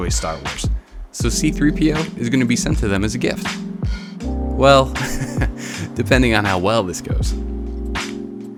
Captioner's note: ha ha